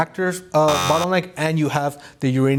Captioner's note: buzzer buzzes